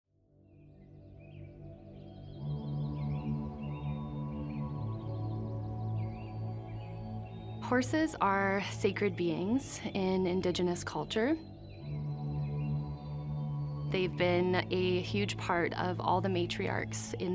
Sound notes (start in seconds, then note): 0.6 birds chirping; 2.4 pensive music; 11.5 birds continue chirping